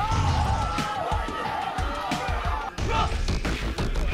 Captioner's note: crowd cheers